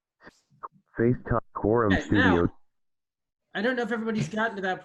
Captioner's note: automated voice